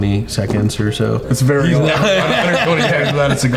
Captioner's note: all laughing